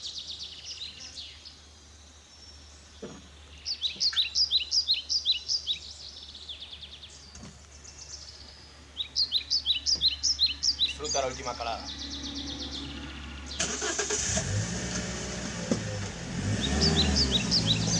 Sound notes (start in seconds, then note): 12.3 car engine starting